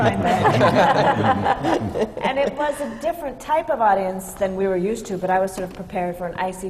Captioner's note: laughter